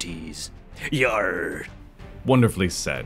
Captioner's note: pirate noises